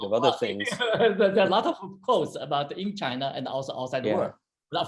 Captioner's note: laughs